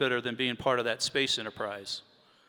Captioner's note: none